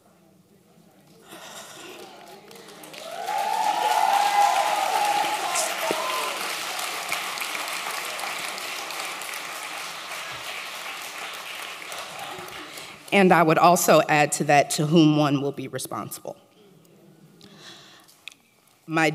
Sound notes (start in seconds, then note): 5.9 applause